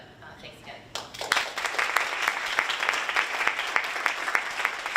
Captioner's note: audience applauding